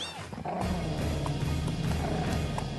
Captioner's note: deer Growling